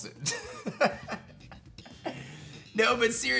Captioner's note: laughs